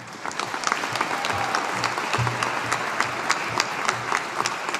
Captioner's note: audience applauding